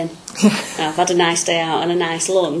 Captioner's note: laughs